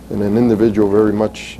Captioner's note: none